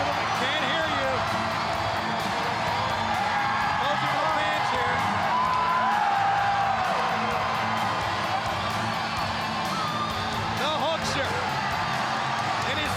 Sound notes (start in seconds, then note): 2.8 crowd cheering; 2.8 upbeat music